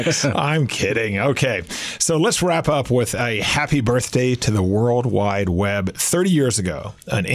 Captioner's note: laughs